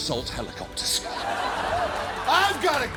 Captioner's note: studio audience laughing